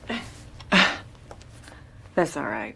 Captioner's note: Sondra scoffs